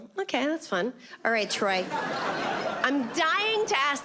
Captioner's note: audience laughs